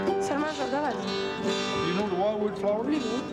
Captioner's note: guitar music; woman speaking Russian